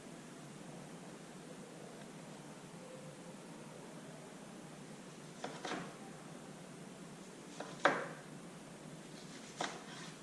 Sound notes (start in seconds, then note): none